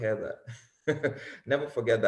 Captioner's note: chuckles